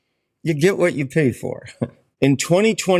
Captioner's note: chuckles